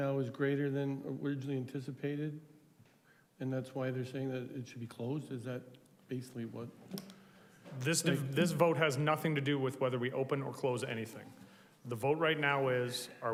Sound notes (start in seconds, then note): none